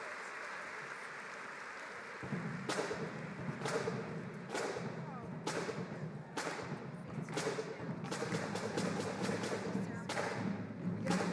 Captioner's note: applause